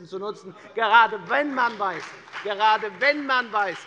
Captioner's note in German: Beifall bei der FDP